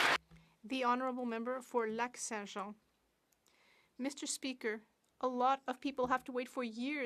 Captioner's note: some Applause